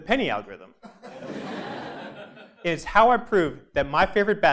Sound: laugh

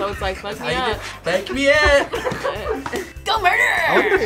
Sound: React laughs

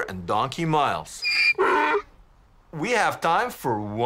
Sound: donkey honking

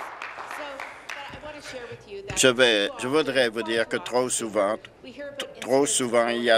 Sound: applause

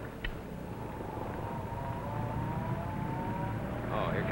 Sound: truck in distance

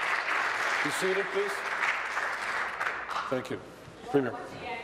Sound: applause

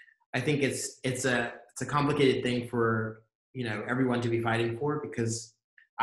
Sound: none

